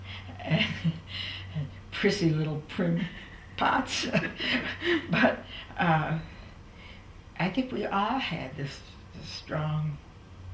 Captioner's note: laughter